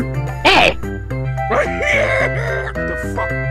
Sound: Kong laughs and Mario is confused

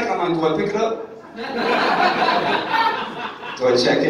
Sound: audience laughing

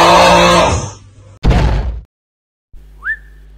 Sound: crash

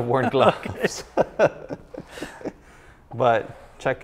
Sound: laughs

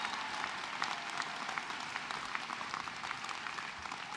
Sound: cheers and applause

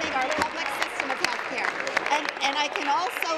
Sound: applause

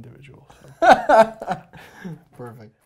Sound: laughs

